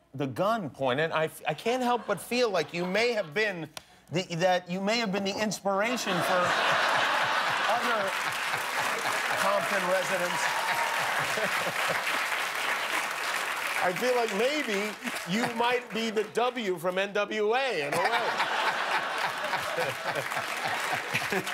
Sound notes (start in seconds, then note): 8.2 laughter and applause